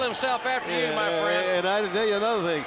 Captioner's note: bell ringing